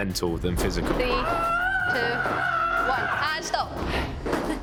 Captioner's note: yelling